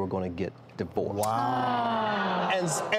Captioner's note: everyone gasping